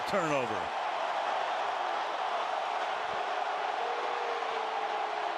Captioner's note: cheering